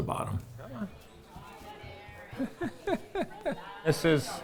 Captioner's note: chuckling